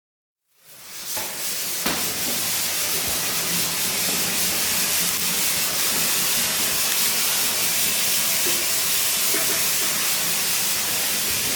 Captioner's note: coolant hissing